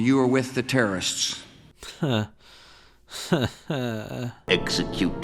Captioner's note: even yet more nervous laughter